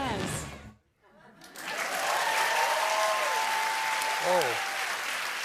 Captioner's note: cheers and applause